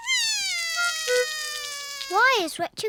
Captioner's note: cries